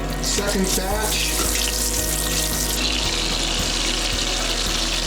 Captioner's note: oil splatters